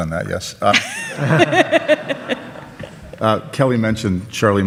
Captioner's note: audience laughs